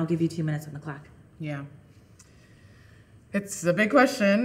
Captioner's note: inhaling deeply